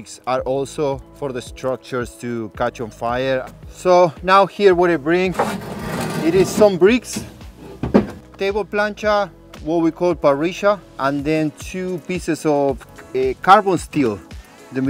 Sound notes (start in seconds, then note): 5.2 bricks scraping; 7.7 bricks thudding